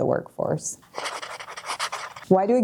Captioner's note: pen writing on paper